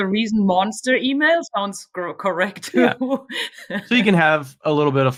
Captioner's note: laughs